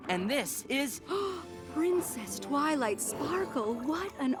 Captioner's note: gasp